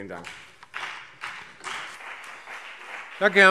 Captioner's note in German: Beifall BÜNDNIS 90/DIE GRÜNEN und CDU